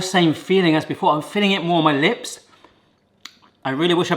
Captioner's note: smacking lips